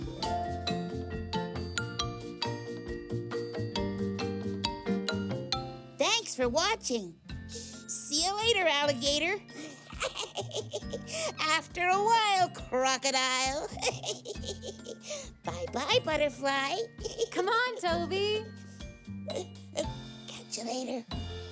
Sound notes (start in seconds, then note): 0.1 cheerful music; 9.6 laughs; 13.7 chuckles